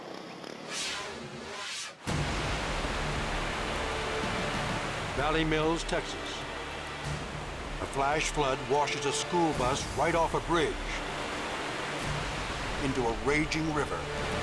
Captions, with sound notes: (fast whooshing) Valley Mills, Texas. A flash flood washes a school bus right off a bridge into a raging river.